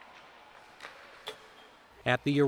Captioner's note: puck slaps